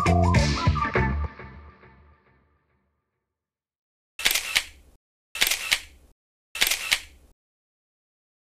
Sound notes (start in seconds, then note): 4.3 camera shuttering